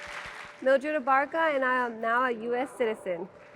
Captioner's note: cheers and applause